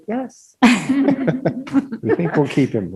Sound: laughing

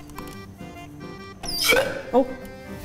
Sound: toy pops

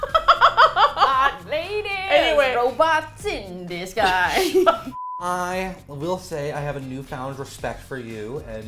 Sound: laughs; laugh

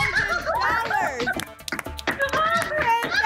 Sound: screams; applause

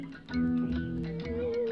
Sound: saw whines

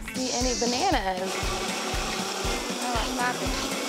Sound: blender buzzes

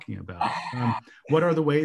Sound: person laughs

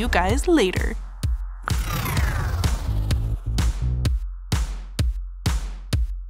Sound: upbeat music; electricity whirring

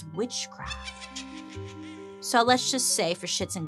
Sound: witch laughs

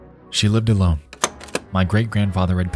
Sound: projector clicks

